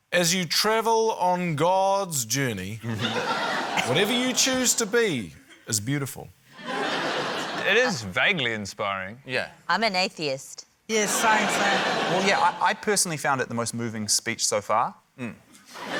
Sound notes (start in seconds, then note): 6.8 laughter